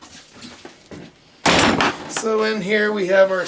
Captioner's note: door slamming